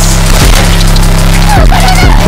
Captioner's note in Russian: выстрел